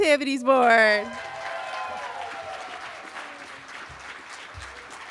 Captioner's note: cheering